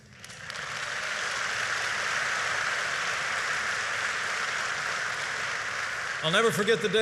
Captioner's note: applause